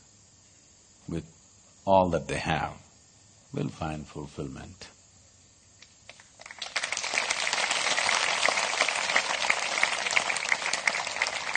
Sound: applause

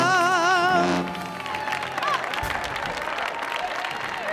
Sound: audience applauds

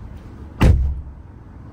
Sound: car door slam

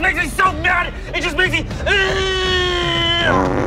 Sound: groaning

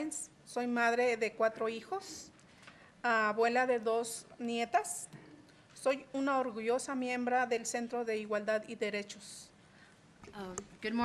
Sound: reading in spanish

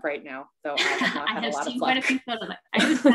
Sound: laughs

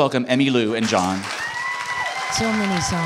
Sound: applause

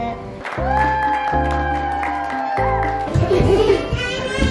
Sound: audience applauds

